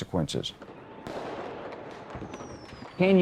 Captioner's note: fireworks cracking